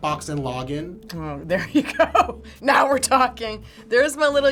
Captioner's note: laughs